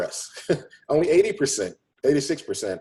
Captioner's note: chuckles